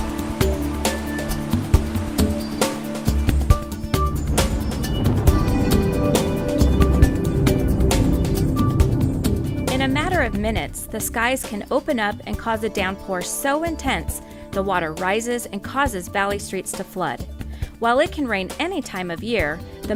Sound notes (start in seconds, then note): 3.9 thunder booming